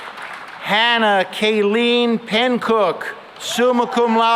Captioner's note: cheering and applause